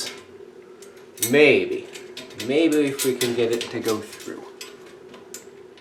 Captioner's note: back to English